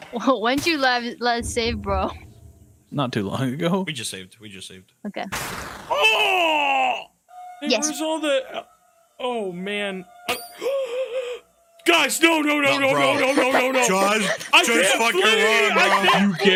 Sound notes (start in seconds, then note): 5.9 yells; 10.6 gasps